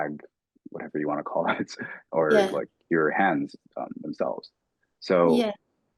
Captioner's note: chuckling